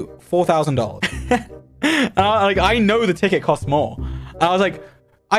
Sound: laughs

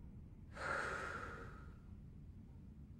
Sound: deep breathing

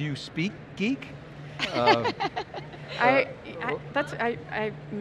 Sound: laughing

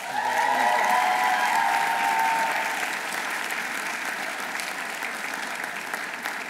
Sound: audience cheering; audience applauding

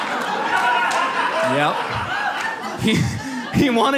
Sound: audience laughs

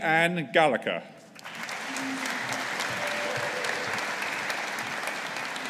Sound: audience applauding

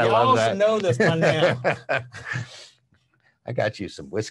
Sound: laughs

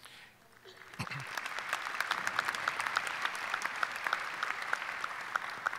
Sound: audience applauding

